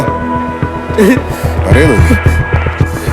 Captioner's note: sobbing